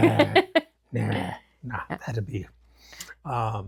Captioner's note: laughs